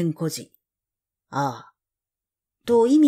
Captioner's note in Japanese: ああ